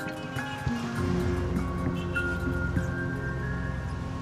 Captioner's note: cars honking